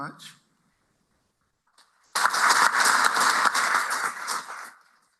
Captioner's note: applause